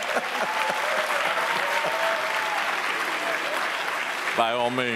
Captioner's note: people chuckle; audience applauds